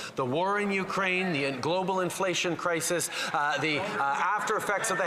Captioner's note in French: voix de l'interprète